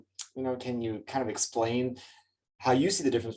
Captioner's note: lips smack